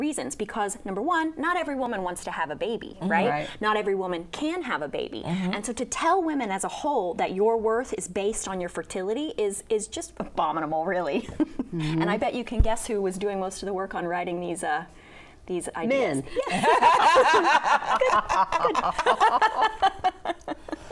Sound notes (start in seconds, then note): 10.8 laughs; 16.3 group laughing; 19.7 laughs